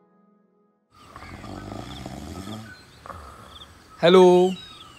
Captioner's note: man snoring